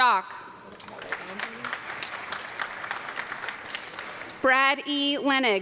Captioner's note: audience clapping